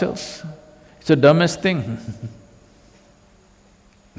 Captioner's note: laughs